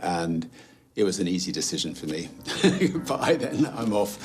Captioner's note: laughs